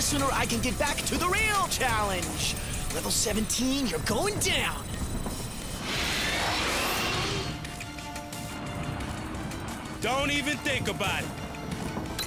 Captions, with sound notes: THE SOONER I CAN GET BACK TO THE REAL CHALLENGE! LEVEL 17, YOU'RE GOING DOWN! (JETS SHRIEK) DON'T EVEN THINK ABOUT IT.